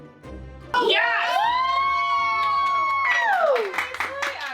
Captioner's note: cheering